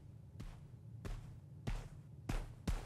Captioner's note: footsteps approaching